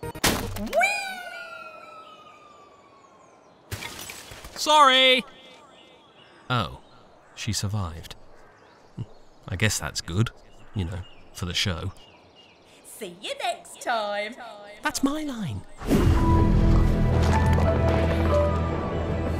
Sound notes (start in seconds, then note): 3.7 sound of glass smashing